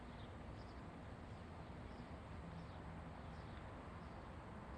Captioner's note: birds chirp